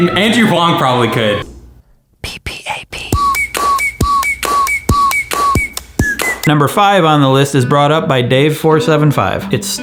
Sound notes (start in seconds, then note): 3.0 tapping and whistling